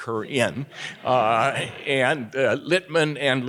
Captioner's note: audience laughing